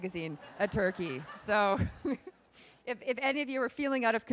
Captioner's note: laughing